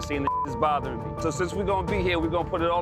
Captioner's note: beep